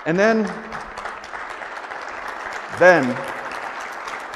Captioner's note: audience applauds